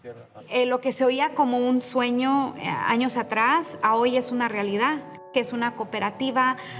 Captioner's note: speaking in Spanish; gentle music